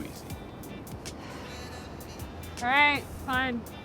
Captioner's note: Fern sighs